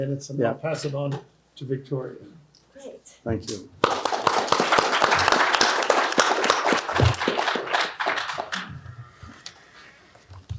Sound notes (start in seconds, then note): 3.8 applause